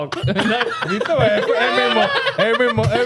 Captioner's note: laughing